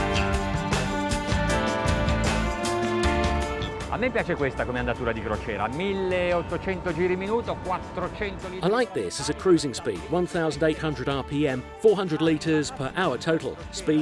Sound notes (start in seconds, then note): 0.0 upbeat music; 4.4 speaking in foreign language